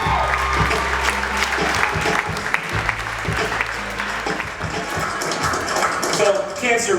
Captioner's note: applause